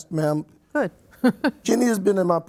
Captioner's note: chuckles